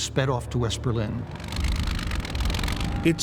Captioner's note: engine rumbles